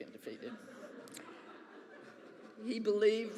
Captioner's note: audience laughs